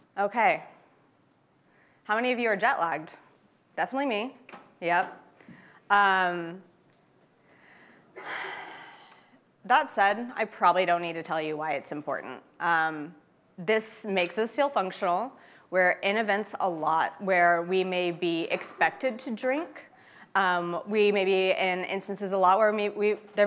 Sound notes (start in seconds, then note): 8.2 sighs deeply